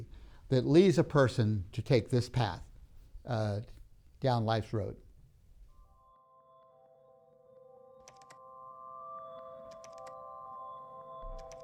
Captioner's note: keyboard clicking